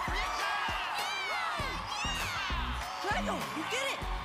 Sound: cheering

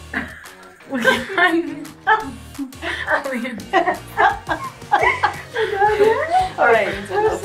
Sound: laughing

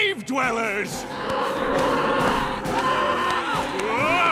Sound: shrieking

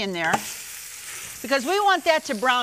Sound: pan sizzles

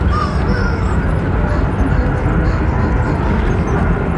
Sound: rubber chicken noises

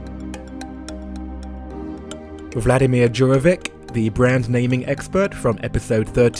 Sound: voiceover

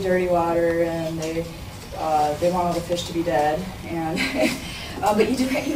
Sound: chuckles

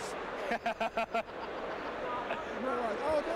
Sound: laughs

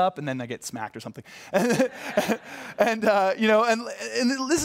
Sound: laughter

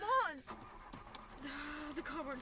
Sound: car ignition starting then quits

